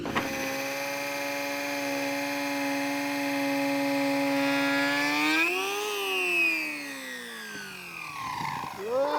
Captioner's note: sawing